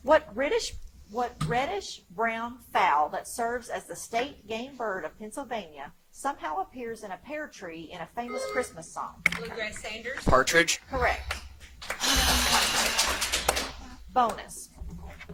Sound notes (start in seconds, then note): 8.2 buzzer chimes; 11.8 audience applauds; 11.9 contestant sighs